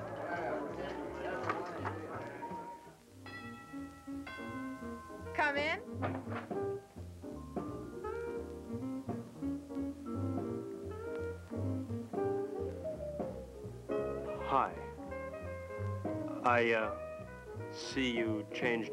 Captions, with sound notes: (doorbell dinging) - Come in! (jazzy seductive music) - Hi, I see you changed your dress.